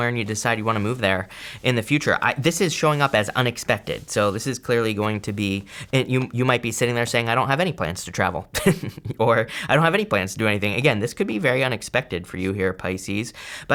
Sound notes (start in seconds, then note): 8.6 chuckles